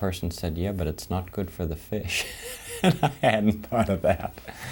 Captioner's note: laughing